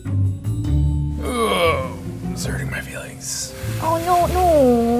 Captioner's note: gentle music; whispers